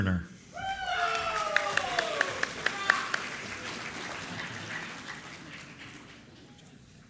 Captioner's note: applause